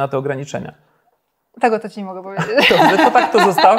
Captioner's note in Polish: śmiech